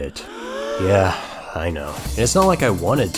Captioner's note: audience gasps